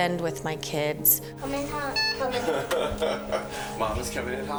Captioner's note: beeps horn